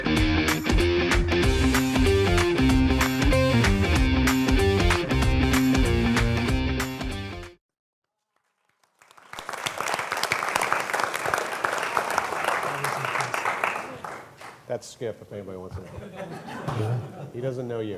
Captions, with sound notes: [applause] That's Skip take my word he doesn't know you